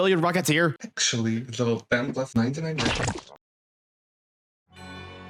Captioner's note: toon green sound effect